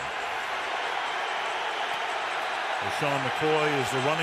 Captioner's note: cheering